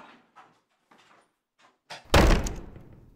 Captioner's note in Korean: 문 닫는 소리